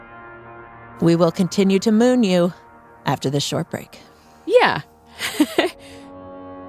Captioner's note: laughs